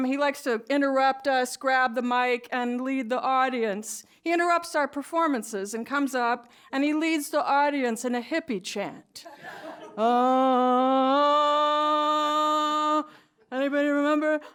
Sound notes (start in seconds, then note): 9.2 laughter